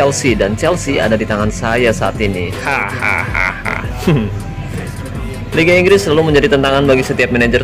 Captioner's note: laughs